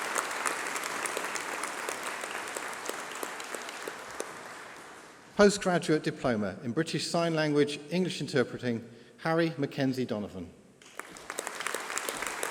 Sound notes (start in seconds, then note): 4.2 applause; 10.8 applause